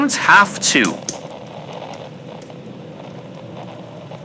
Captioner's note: pen clicks fx